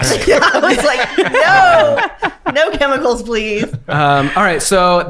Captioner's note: laughs